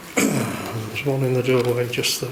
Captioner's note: clearing throat